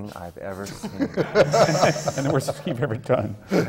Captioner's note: laughter